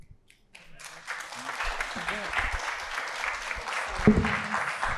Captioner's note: audience applauding